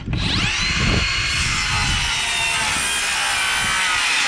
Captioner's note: saw buzzing